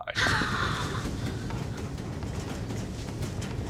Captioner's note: breathes heavily